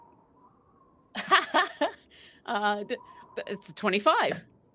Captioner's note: chuckles